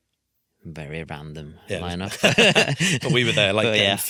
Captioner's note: laughs